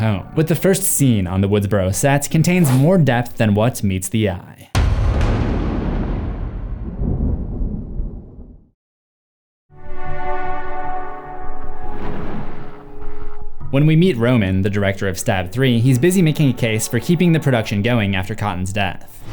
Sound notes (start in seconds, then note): 4.7 cinematic impact; 9.8 mysterious music